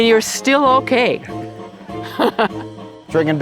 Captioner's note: laughs together